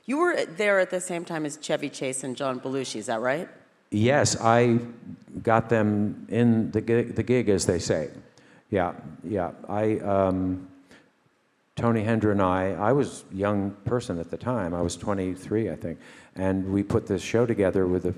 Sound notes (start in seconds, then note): none